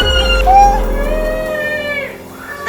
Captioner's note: screams